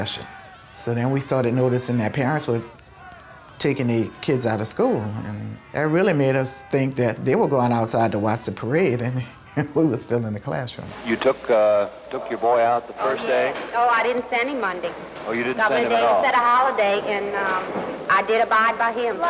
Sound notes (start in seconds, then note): 9.2 laughs